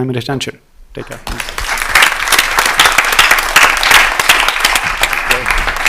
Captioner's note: applause